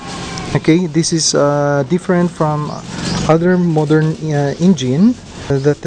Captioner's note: motorcycle